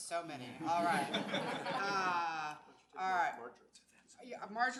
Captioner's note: audience laughs